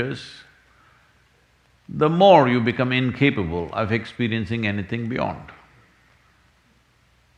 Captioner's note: none